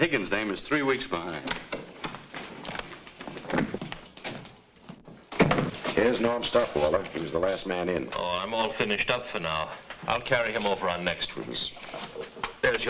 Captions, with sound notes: That Higgins dame is three weeks behind. (door thuds shut) - Here's Norm's stop, Walter. He was the last man in. - Oh, I'm all finished up for now. I'll carry him over on next week's.